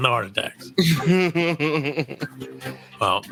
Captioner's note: laughing